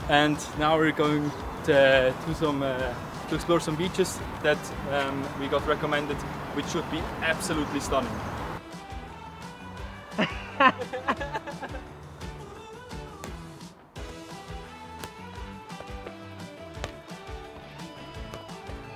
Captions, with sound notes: and now we're going to explore some beaches that we got recommended, which should be absolutely stunning. (men laughing) (ball bouncing off ground)